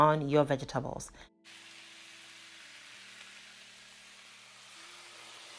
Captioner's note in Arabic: طعام أزيز